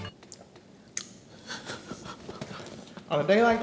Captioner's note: laughing